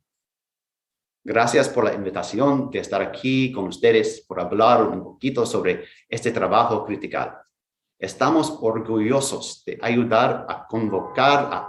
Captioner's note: speaking in Foreign Language